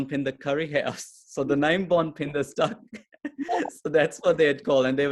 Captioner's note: chuckles